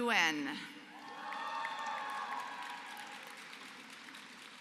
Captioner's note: applause